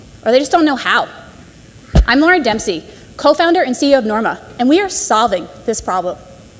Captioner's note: none